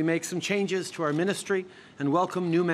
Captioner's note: speaking french